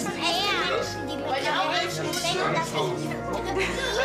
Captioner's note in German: Stimmengewirr